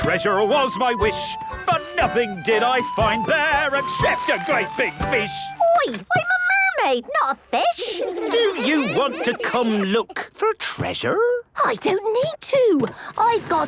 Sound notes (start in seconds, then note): 7.6 children giggling